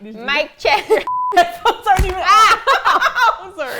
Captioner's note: both laugh